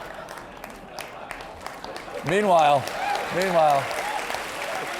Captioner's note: applause